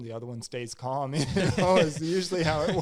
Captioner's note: both laugh